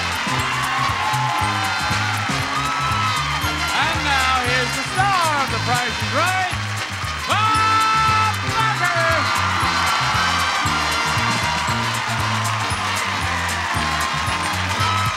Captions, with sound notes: (audience applauds) (upbeat music) And now here's the star of "The Price is Right" Bob Barker! (audience applauds)